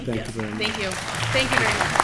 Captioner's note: applause